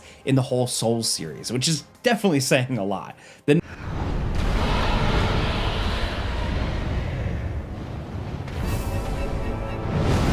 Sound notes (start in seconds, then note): 3.7 dragon roars; 8.8 tense music